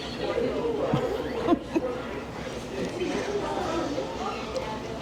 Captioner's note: people chattering